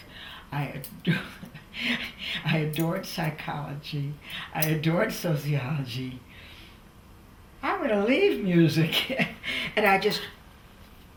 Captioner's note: laughs